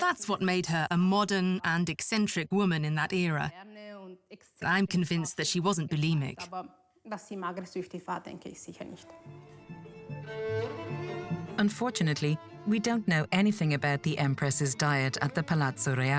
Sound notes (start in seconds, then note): 6.6 speaks in foreign language; 9.1 upbeat classical music